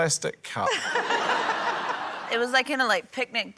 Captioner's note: laughter